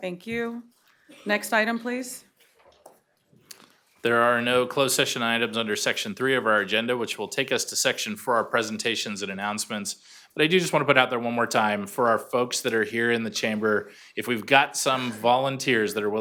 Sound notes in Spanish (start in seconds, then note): 2.7 coro de sí